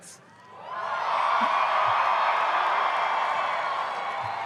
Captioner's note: loud cheering